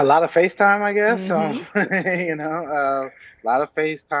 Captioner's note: laughing